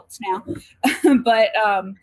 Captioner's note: chuckles